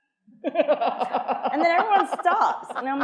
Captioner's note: attendees laughing